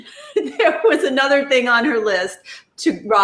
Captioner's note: laughs